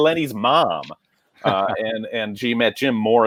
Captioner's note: laughter